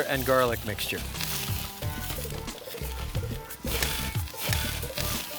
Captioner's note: kebabs sizzle